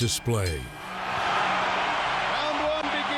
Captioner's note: crowd cheering